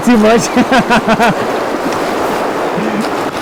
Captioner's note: laughing